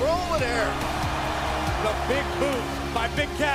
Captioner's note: cheers & applause